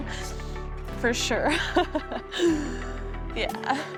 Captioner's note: laughs